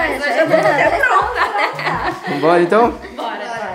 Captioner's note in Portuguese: Risos